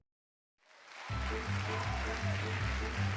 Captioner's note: cheers and applause